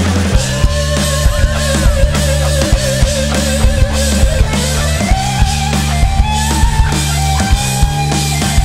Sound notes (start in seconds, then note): 1.0 audience cheers